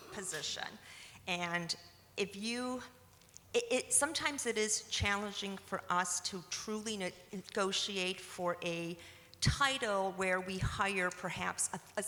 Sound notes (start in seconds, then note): none